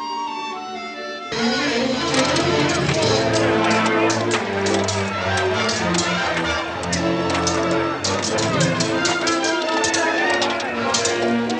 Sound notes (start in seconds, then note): 4.3 men shouting; 4.3 swords clanking